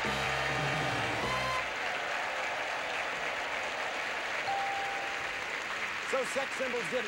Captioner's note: audience applauding